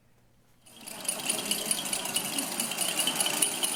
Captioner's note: clinking